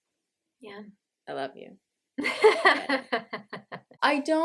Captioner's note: laughter